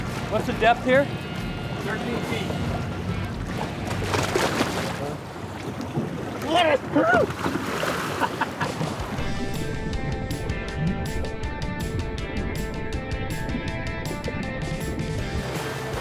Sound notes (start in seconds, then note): 4.3 water splashing; 8.0 laughing; 9.3 upbeat rock music; 10.2 water churning